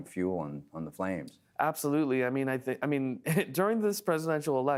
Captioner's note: laughing